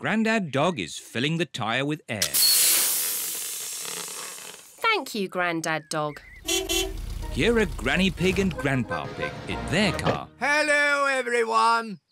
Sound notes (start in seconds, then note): 2.4 air hissing; 6.4 horn beeps